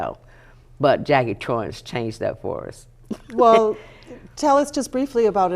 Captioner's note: laughing